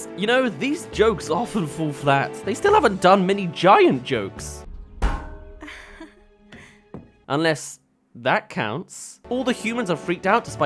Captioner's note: bang